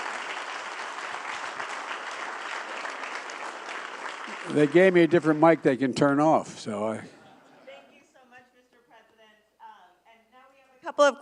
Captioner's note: applause